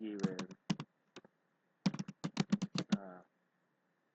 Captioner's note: typing